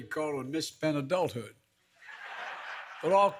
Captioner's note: laughter